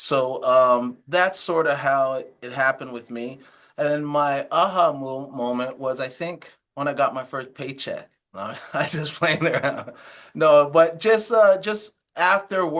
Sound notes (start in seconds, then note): 8.4 laughs